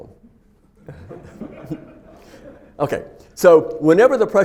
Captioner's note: students laughing